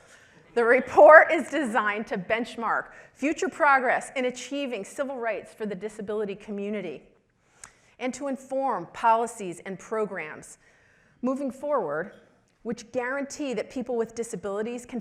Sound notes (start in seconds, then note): none